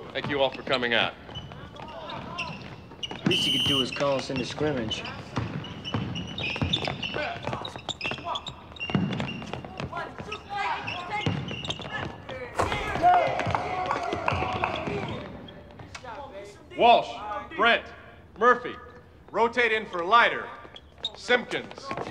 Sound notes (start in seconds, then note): 6.2 sneakers squeaking; 7.8 players calling to each other; 12.6 teammates cheering